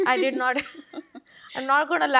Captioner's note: all laugh